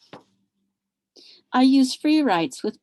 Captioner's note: objects clattering